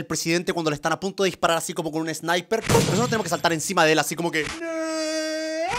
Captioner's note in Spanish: puum